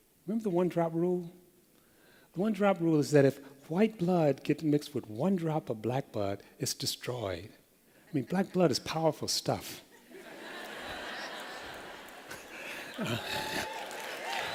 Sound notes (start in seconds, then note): 10.0 laughter